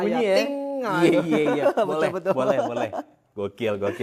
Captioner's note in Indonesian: tertawa